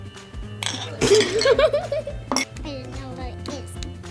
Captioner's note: laughs